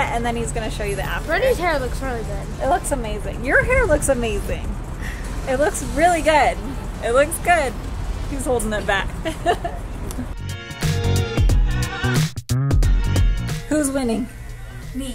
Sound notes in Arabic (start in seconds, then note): 8.8 يضحك; 10.3 موسيقى مبهجة